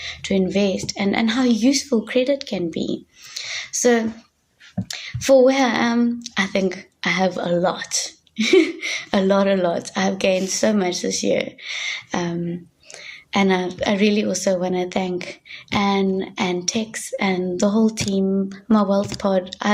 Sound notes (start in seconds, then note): 8.4 chuckling